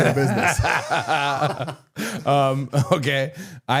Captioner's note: all laughing